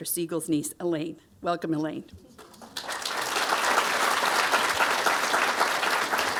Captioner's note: audience applauding